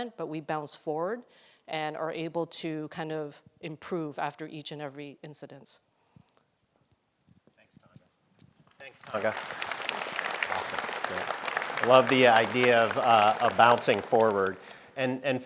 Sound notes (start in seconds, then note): 8.7 audience applauding